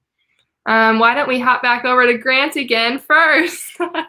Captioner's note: laughter